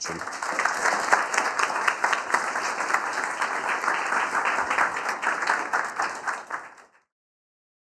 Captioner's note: class applauding